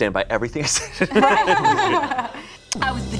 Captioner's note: group laughs